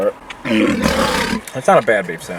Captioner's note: lion roaring